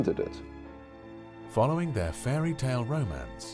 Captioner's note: voiceover